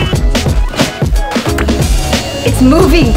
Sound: clicking sound

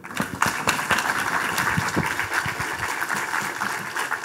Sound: audience applauding

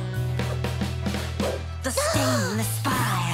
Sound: gasping

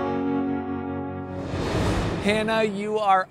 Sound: air whooshing

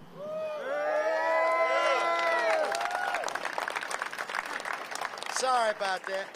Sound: applause

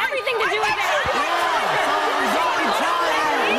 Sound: crowd jeers

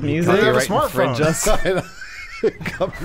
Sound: laughing

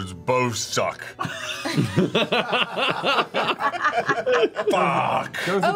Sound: all laugh

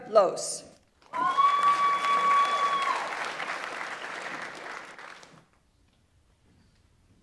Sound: audience applauds; audience member cheers

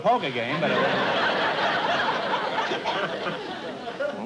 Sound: laughter

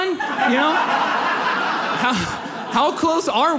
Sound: audience laughs

